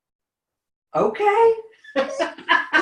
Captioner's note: laughs